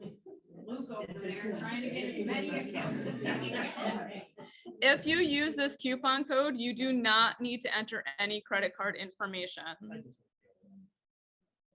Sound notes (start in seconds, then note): 3.2 group laughs